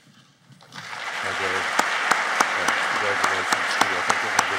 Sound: applauding

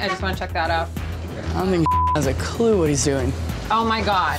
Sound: beep

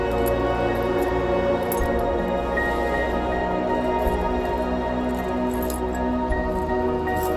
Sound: keys jingle

